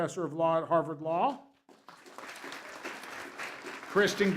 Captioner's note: applause